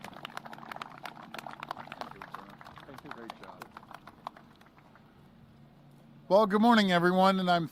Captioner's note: applause